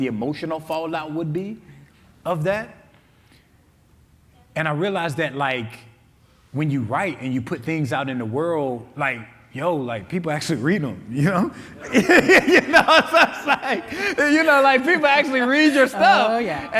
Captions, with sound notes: the emotional fallout would be of that. And I realized that like when you write and you put things out in the world, like yo, like people actually read them. you know? (laughing) You know, like people actually read your stuff.